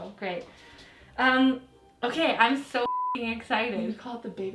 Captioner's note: beep